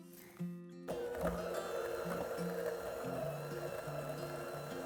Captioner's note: mixer whirring